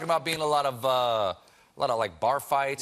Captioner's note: none